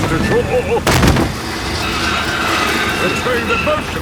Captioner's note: thud